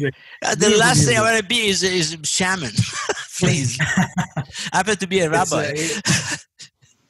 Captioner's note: laugh